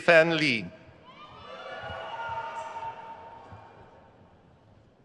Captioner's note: crowd cheers